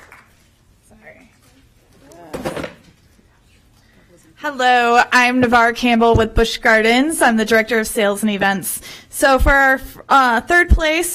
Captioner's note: applause